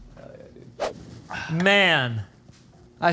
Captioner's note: air whooshing